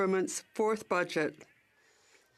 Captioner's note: speaking French